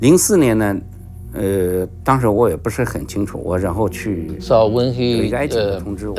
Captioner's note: speaking in foreign language